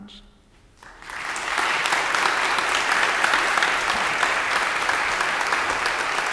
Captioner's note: audience applause